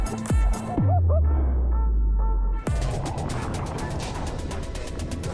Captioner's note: muffled excited laughter